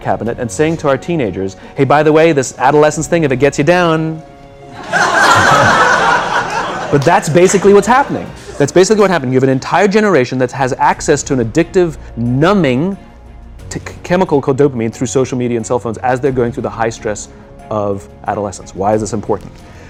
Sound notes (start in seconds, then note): 4.7 laughter